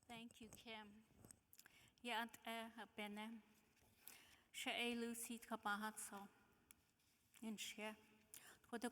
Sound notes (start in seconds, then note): 2.4 speaking in foreign language